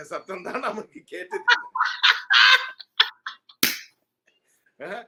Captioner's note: laughs